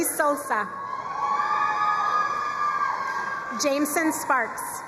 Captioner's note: crowd cheering and applauding